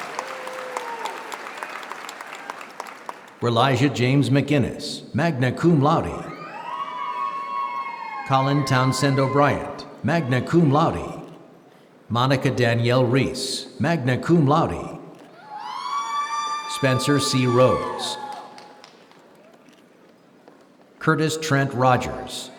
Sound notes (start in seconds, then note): 4.0 applause